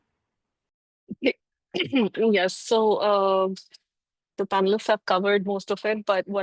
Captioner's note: clears throat